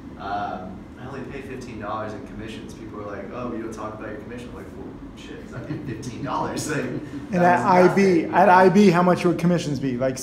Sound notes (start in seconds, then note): 5.4 laughs